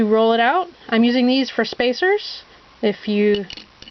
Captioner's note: wood sticks